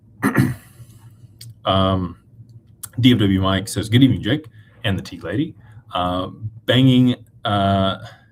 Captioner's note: clears throat